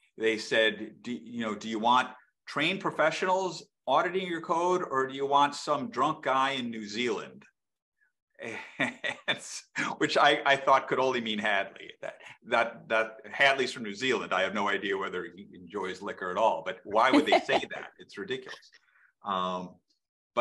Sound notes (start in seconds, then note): 8.5 laughs; 17.0 laughs